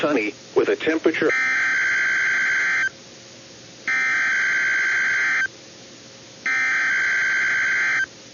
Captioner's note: EAS header tones